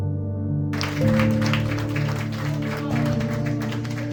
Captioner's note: crowd clapping